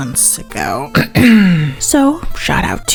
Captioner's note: clears throat